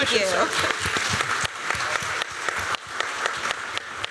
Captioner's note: applause